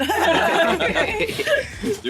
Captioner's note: group laughing